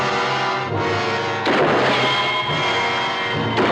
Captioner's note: guns firing